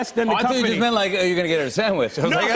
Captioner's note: laughter